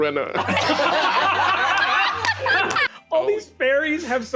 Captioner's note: laughter